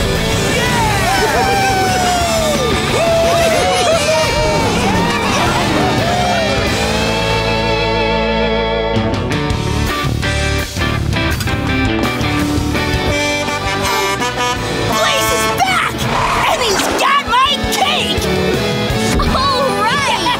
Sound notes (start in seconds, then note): 2.6 laughing; 13.0 Blaze honking